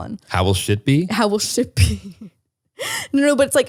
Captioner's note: laughs